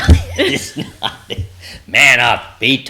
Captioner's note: both laughing